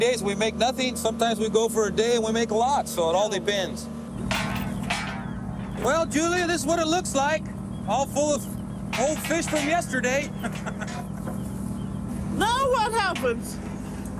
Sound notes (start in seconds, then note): 10.1 chuckles